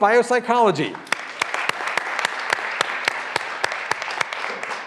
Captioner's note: graduands applauding